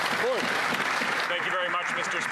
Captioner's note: applause